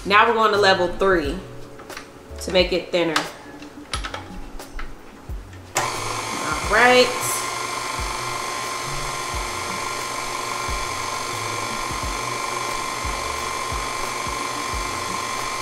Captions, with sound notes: now we're going to level three to make it thinner. (dials clicking) Alright. (pasta maker whirring)